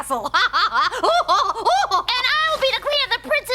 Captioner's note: laughs